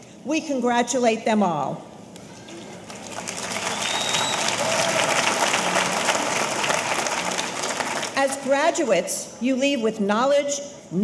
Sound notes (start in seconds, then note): 2.5 audience applauding; 3.2 audience cheering